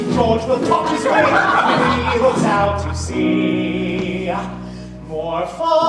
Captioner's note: crowd laughs